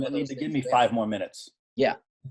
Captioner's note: chuckling